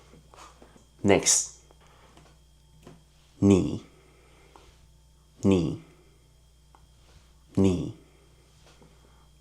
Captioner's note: in Mandarin; in Mandarin